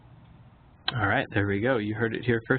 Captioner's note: voiceover